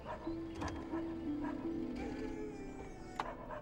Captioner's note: dogs barking